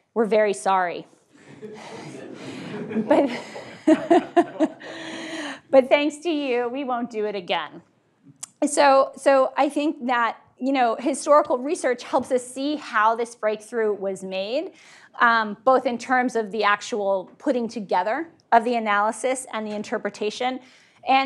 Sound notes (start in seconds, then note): 1.4 laughs; 1.4 audience laughing